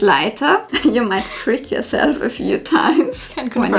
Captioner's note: laughs